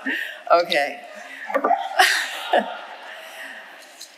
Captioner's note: chuckles